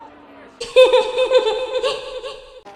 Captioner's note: Golden Freddy Laughter